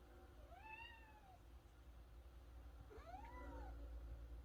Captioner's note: cat sound; korean cat sound